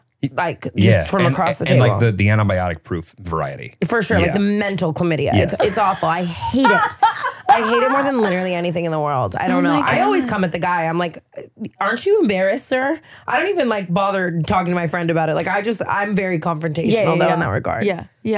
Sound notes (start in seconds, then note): 5.3 laughing